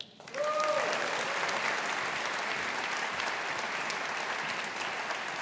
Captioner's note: audience applauding